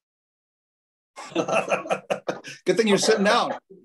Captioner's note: men laughing